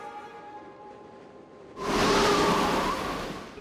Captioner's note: whoosh